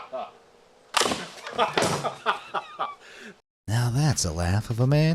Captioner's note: laughs; gunshot